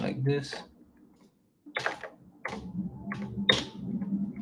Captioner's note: keyboard clacking